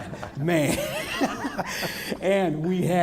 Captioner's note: laughter